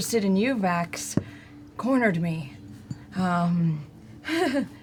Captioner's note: nervous laugh